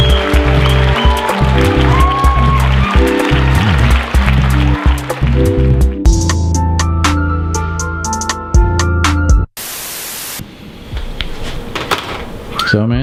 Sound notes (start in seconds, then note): 9.6 static buzzes; 12.6 whistles